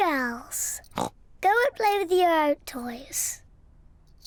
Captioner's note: snorts